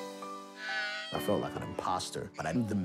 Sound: child crying

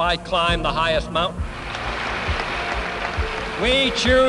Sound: applause

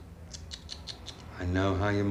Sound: tutting

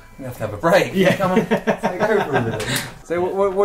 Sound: laughs

